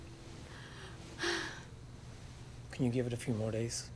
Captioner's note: sighs